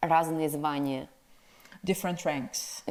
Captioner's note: speaks in foreign language